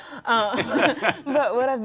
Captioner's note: laughter